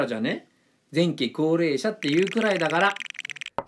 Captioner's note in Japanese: ルーレットの音